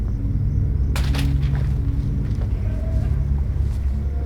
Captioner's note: police tape rustling; soft tense music